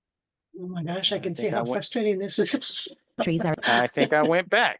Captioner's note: laughs